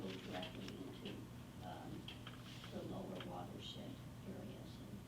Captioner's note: faintly speaking